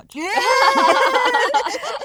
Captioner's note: girls laughing